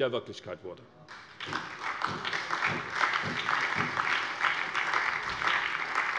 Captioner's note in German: Beifall bei der SPD